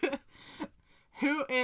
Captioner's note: sharp breath